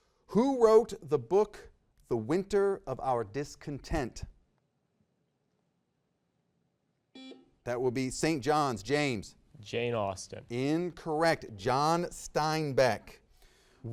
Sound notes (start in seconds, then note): 7.1 buzzer beeps